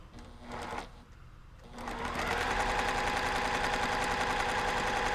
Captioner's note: sewing machine roaring